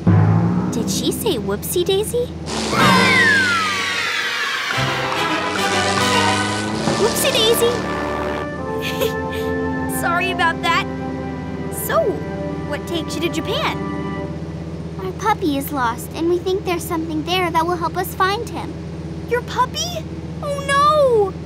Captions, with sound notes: Did she say Whoopsie Daisy? [screaming] Whoopsie daisy. [laughing] Sorry about that. So, what takes you to Japan? Our puppy is lost, and we think there's something there that will help us find him. Your puppy? Oh no!